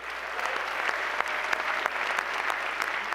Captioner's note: applause